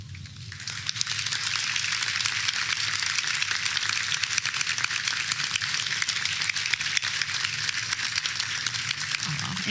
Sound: applause

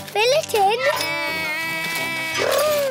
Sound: edmond elephant makes beeping sounds

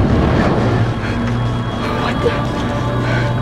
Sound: flames bursting

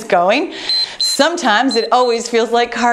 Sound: timer beeps

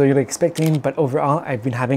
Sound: camera clicking

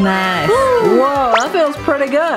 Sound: children cheering

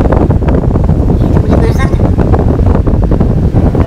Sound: sorry for fan sound

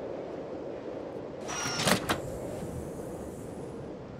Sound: door whirs, clicks open

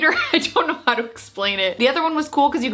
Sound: laughs

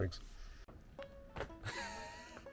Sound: laughter

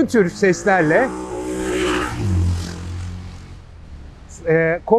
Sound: engine sound

